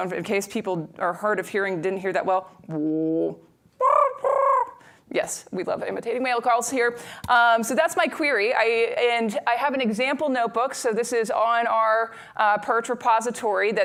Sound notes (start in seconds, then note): 3.8 mimics higher-pitched call